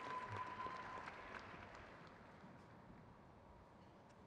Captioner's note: crowd cheers